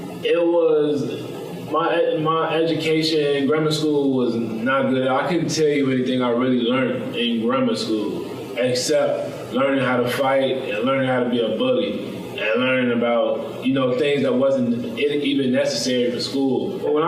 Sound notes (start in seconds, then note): none